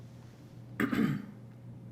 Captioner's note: clears throat